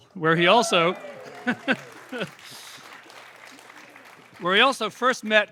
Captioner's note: cheers, applause